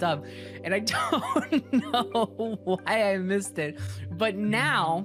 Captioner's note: laughing